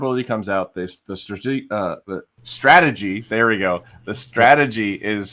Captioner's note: stumbles over word